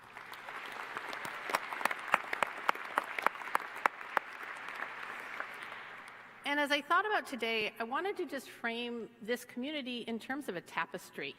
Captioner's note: applause